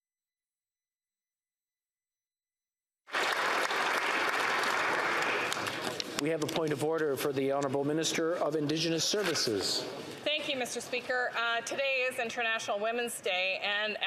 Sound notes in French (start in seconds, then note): 1.4 applaudissements